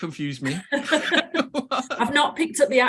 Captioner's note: both laugh